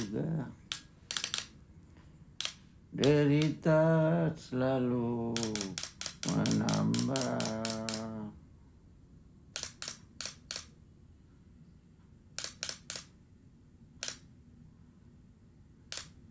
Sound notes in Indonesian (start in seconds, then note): 9.4 klik klik klik klik; 12.3 klik klik klik; 14.0 klik; 15.9 klik